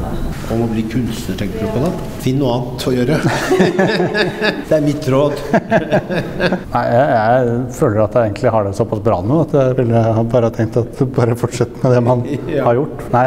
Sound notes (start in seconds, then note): 3.1 haha